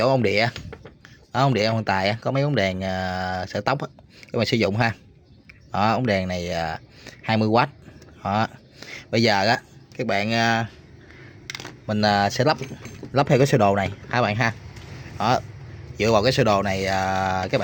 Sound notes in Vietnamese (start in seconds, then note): 8.7 khịt mũi